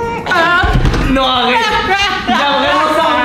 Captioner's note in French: rire